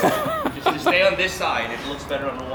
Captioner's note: laughter